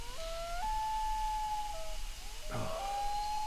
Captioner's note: animal howling